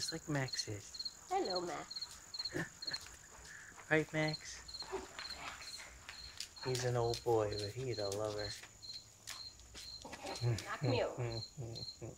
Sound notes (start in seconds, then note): 2.4 laughing